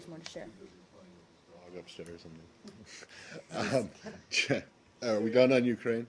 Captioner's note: laughter